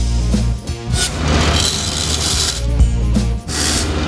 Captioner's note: grinding